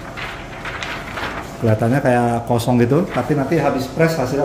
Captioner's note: PET film noise